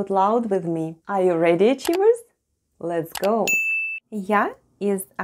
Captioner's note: click and ding sounds